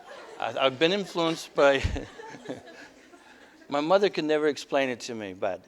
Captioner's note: audience: Laughter; laughter